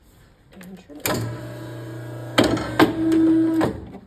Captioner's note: paper cutter whirring